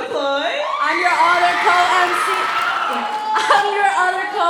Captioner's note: cheering